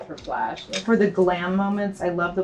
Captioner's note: woman's Voice